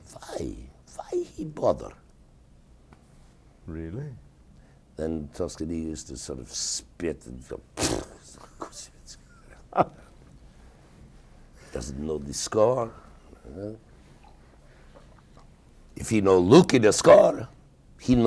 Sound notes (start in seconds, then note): 7.8 spitting and mumbling; 10.1 interviewer laughing